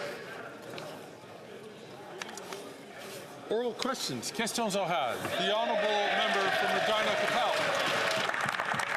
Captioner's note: some Applause